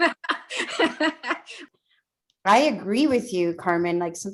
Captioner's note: laughing